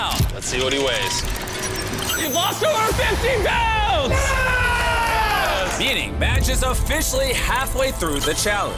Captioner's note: screaming